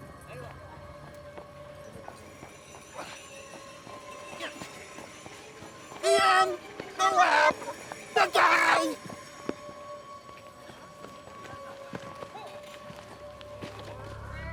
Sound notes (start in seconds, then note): 0.8 people chattering faintly; 10.5 eerie music continues